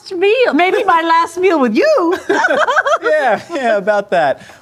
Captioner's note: laughing